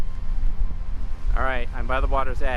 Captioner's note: running